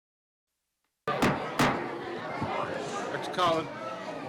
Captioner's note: gavel banging; people chattering